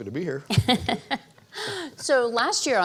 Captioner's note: laughs